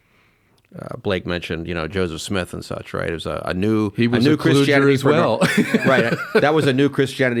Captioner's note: laughs